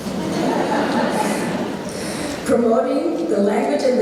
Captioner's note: audience laughing